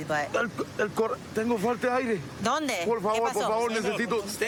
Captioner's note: speaking spanish